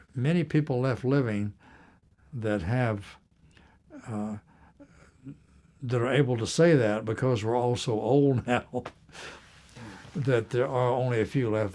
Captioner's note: laughter